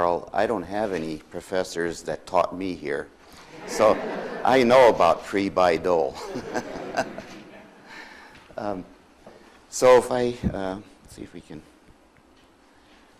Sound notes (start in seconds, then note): 3.4 audience laughs; 6.1 laughs